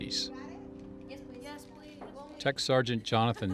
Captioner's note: family chattering